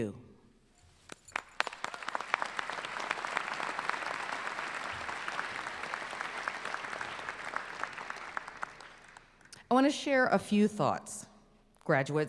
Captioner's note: applause